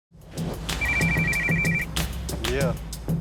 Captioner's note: phone ringing